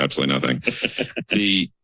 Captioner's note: laughs